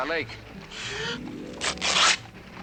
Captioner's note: inhales deeply; fabric ripping